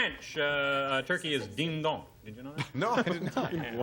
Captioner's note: french